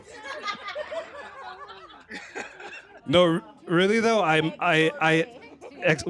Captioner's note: laughter